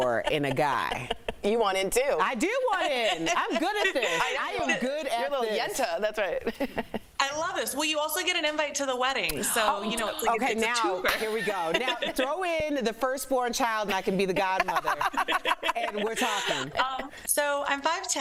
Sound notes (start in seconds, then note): 4.3 laughter